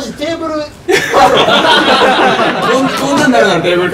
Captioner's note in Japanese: 笑い